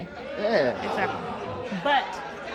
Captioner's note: audience groans